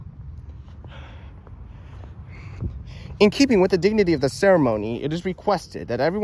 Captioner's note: exhales